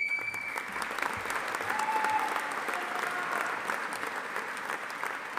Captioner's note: audience applauding